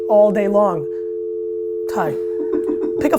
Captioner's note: dial tone